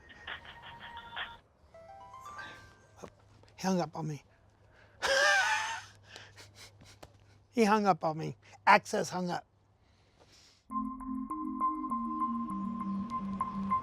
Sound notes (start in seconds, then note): 4.9 sigh; 5.0 laughs